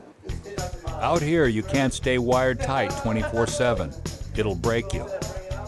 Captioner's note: voiceover